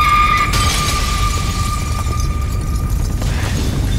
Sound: Lydia screams; glass shattering

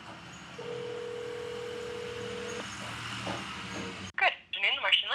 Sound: telephone ringing

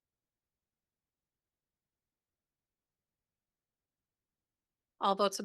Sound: audio cuts out

